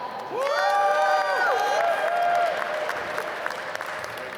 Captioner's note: applause